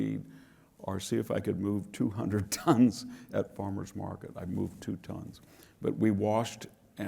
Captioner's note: laugh